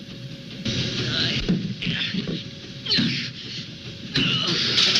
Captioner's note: groaning and struggling